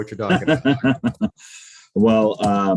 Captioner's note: laughing softly